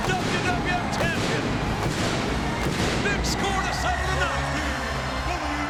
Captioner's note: pyro blasting